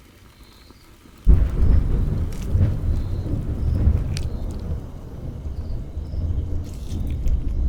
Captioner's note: another thunderstorm begins